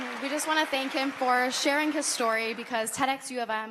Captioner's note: applause